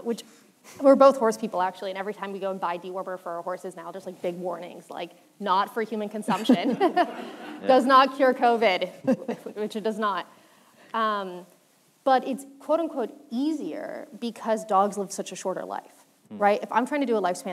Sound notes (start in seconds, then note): 7.8 laughter